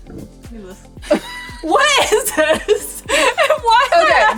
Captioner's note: both laugh